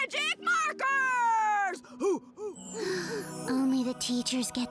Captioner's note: gasps